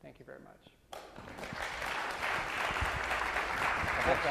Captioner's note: applause